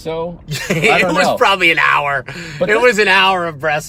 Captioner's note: laughing